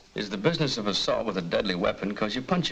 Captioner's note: none